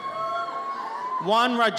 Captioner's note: audience cheers